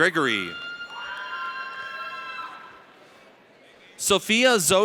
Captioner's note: audience cheers